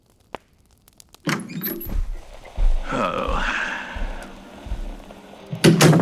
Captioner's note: Alastor enters fx, sighs; door close fx